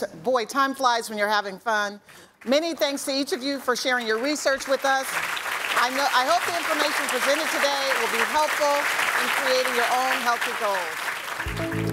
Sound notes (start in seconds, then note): 5.1 audience clapping; 11.4 bright music